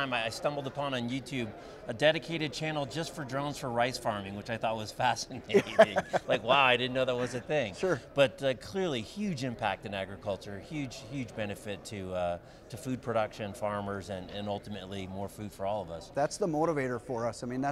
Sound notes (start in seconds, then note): 5.5 laughter